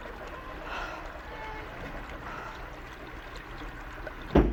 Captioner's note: sighs